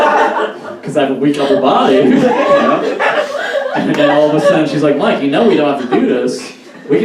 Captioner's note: audience Laughs, but a sad laugh